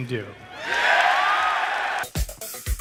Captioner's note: crowds cheering